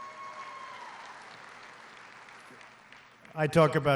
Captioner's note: applause